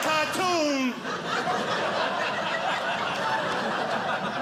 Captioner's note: audience laughing